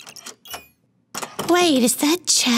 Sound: door opens

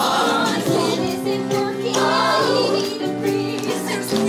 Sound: ooh aah ooh

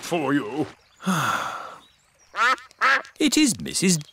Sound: sighs; quacking

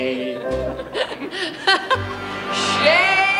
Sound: laughing

